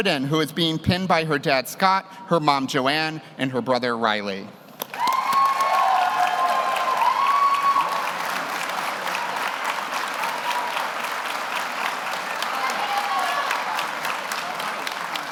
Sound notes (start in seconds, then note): 4.8 audience applauds; 4.9 audience cheers